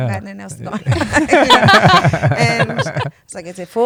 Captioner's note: laughter